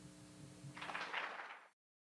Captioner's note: applause